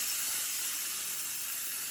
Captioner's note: tool whirs